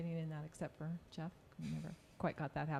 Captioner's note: snickering